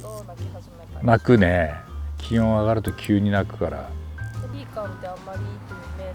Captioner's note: chirping